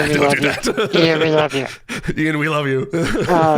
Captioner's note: laughs